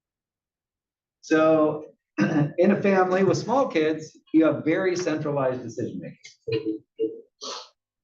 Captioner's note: cough